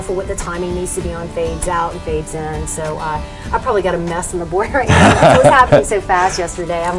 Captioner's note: laughs